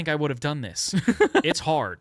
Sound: laughs

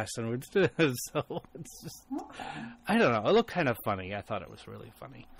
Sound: DJ laughs

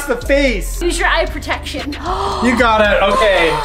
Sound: gasps

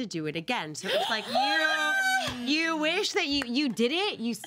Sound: girls gasp

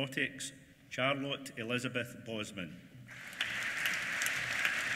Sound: applause

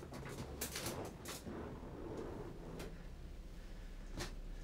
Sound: bed creaks quietly

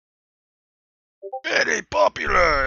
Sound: Discord Ping

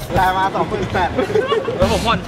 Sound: laughs; chuckles

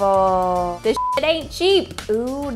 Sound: beep

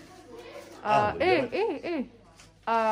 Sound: Arabic

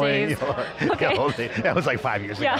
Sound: laughs

